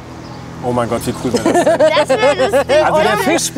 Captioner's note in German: lacht